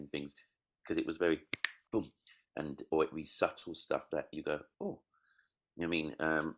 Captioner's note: clicks